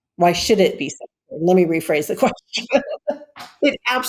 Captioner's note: laughs